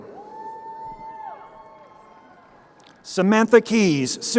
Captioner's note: crowd cheering